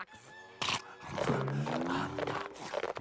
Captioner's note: scrunching